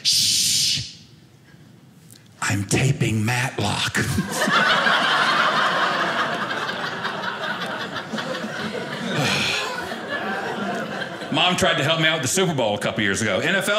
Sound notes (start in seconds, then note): 4.2 audience laughing